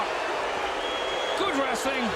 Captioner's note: audience jeering